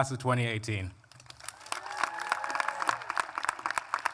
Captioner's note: applause